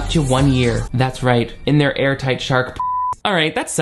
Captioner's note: beep